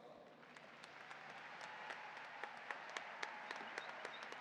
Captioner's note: audience applauding